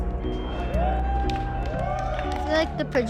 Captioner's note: aplausos